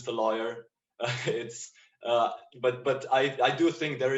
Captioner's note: chuckles